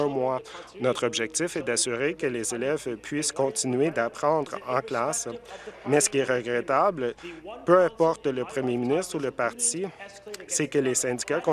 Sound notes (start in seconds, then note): none